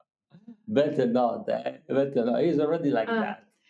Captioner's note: laughing